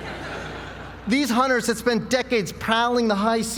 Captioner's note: laugh